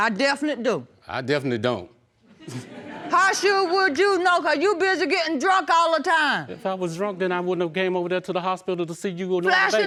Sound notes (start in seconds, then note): 2.3 audience laughing